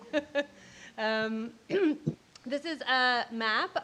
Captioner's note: laughing